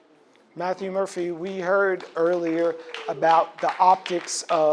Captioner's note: audience claps